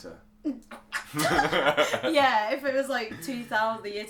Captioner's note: laughter